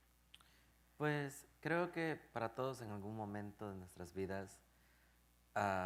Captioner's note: speaking in Spanish